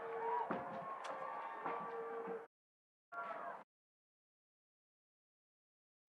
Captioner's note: audience cheering; audience applauding